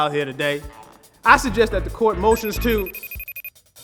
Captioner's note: phone alert sounds